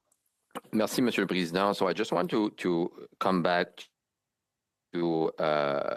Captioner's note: speaking French